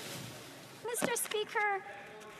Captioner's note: some Applause